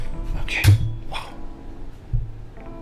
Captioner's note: hitting the microphone stand